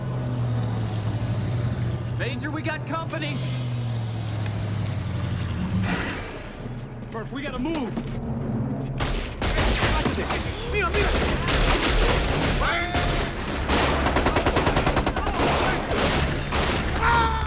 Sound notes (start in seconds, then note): 0.3 truck rumbling; 3.8 tense music; 9.0 gunshots cracking; 9.3 people shouting in Spanish; 14.0 gunfire rattling; 16.9 soldier screams